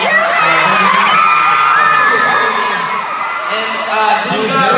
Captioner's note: fans screaming